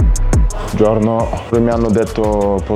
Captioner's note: Italian